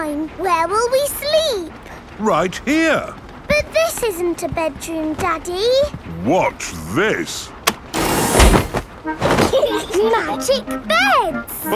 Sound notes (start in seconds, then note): 9.4 laughing